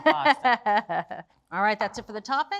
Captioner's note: laughing